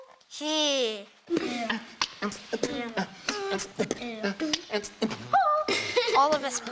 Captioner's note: beatboxing